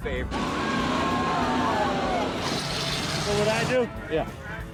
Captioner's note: crowd cheering